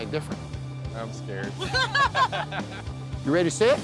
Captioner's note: all laugh